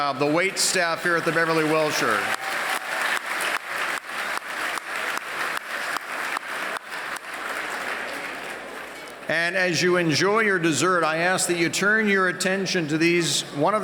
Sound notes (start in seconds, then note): 2.7 applause